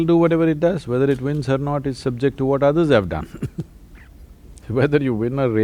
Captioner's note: laughs